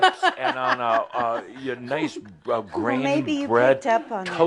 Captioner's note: she laughs